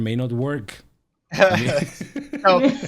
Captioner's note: all laughing